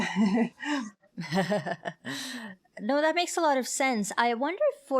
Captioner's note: laughs